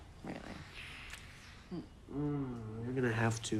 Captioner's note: lips smacking; Paul moans